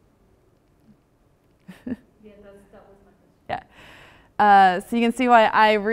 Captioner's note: laugh